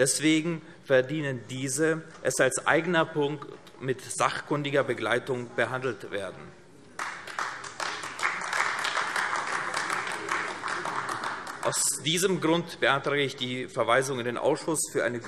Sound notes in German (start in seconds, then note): 6.9 Beifall AfD